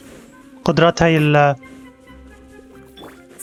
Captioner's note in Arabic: زقزقة الطيور